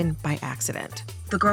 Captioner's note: soundbite of archived recording